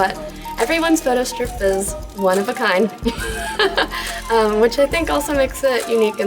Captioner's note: laughs